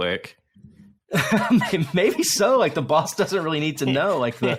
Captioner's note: laughs